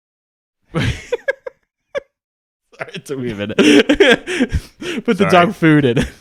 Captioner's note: laughs